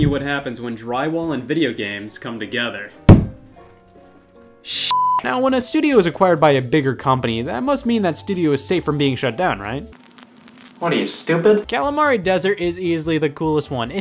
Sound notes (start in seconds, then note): 3.0 bangs wall; 4.9 beep; 9.9 television static